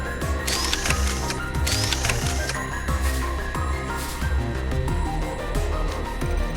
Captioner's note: whirrr, whirrr... swish